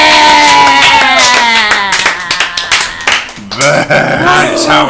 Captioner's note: cheering